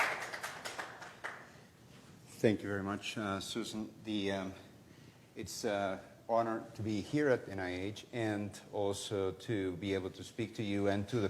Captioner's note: applause